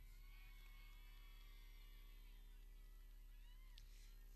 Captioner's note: people cheering